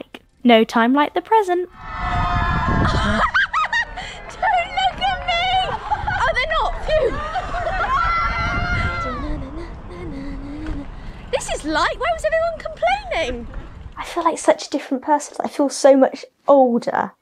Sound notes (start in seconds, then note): 1.9 cheering; 2.7 laughing; 8.8 humming